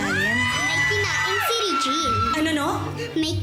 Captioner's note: screams